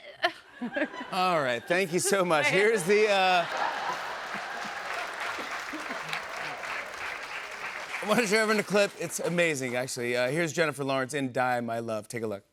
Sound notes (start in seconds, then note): 1.7 laughter and applause